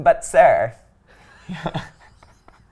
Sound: laughs

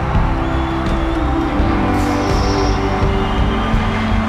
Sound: crowd cheering

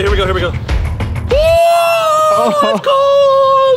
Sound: screaming

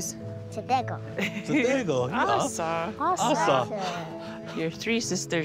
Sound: speaking in language

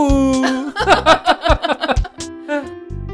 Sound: laughs

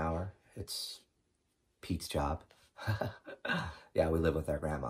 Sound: chuckling

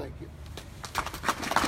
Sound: applause

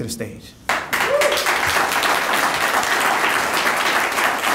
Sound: audience applauding

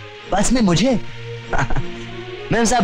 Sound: short Laugh

